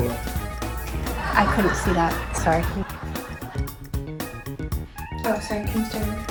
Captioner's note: audience laughing